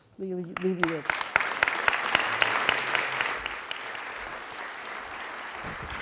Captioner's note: applause